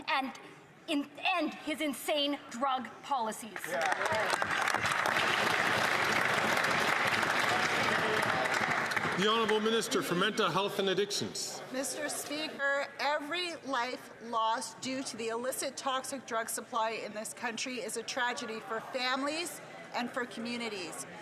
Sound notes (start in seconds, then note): 9.9 some Applause